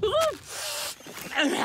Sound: chewing noisily; sniffs

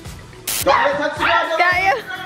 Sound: girl screams

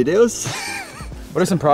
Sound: laughing

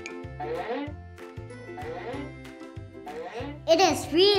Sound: snail dragging

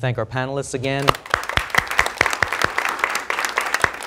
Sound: applause

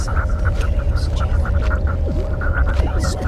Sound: intense Celtic whispers

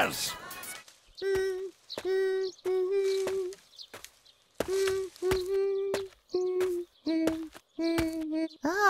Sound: humming

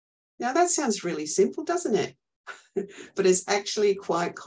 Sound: laughs

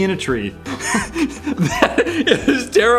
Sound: both boys laugh

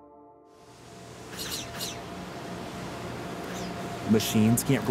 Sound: machine whirring

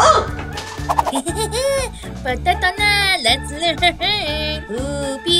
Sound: minion speaking gibberish

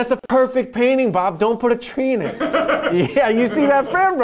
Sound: laughter

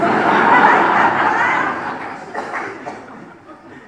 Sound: audience laughs

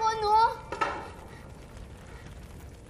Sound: wooden spoon clatters

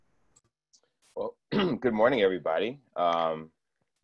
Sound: coughs

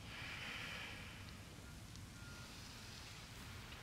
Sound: inhales and exhales

